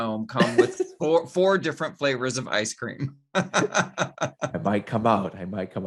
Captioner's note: laughs